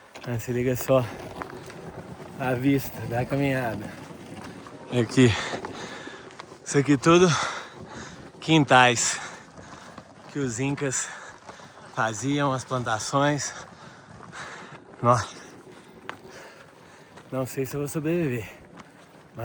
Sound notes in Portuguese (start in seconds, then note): 7.2 suspirando